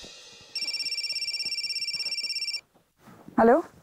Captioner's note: Phone ringing